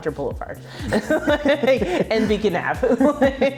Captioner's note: both laughing